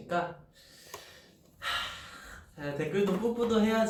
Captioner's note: sigh